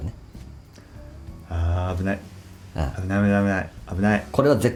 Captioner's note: laughs